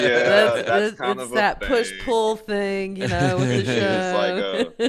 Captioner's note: laughing